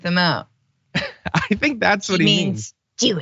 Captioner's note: laugh